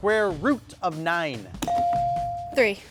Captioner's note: buzzer dinging